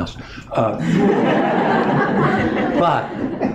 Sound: laughter

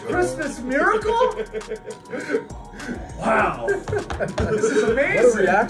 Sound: laugh

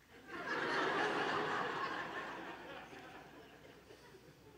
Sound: congregation laughing

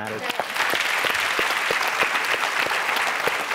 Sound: applause

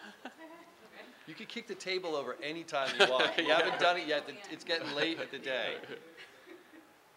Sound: laughing

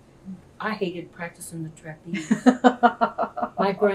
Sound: laughter

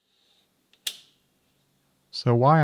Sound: switch clicking

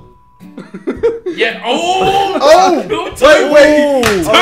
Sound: group oohing

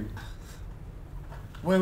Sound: Law scoffs

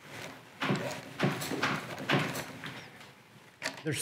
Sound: clanking

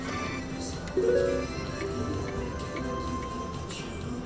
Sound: machine beeps

